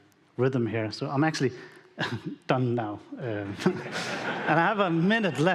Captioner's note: audience laughing